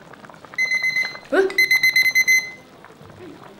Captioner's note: timer goes off